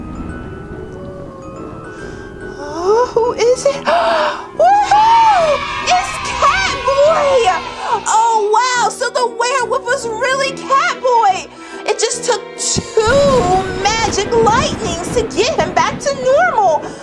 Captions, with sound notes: Oh, who is it? (cheers) It's Catboy! (children cheering) Oh, wow, so the werewolf was really Catboy! It just took two magic lightnings to get him back to normal.